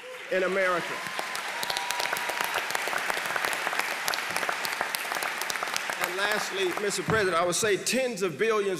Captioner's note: applause